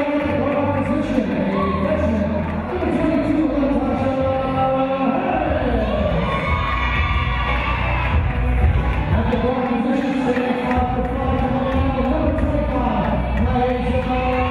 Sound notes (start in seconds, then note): 5.4 cheering; 6.4 clapping